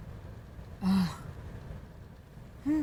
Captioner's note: sighs